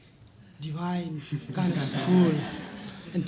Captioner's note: laughter